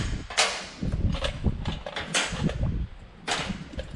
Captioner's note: metal clanking